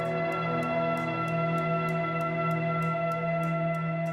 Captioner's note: echo ambience rings out